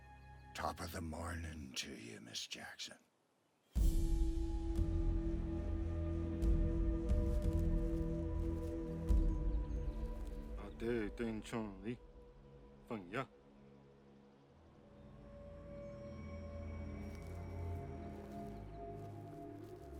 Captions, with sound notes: - Top of the mornin' to ya, Ms. Jackson. (drum music) (speaking in foreign language)